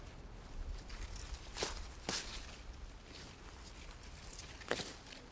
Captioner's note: roots tearing